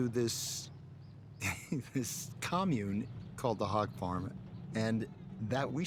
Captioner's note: laughing